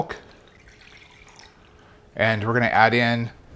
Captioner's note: milk splashes